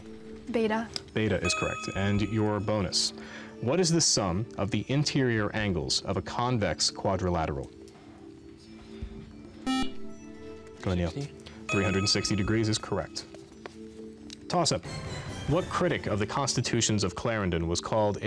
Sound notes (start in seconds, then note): 8.1 beep